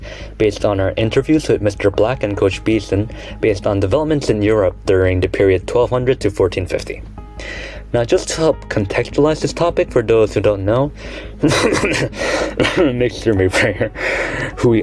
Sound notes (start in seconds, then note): 11.4 profuse, *unconvincing* coughing